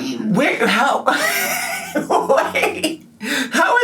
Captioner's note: laughing